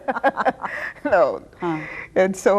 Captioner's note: both laughing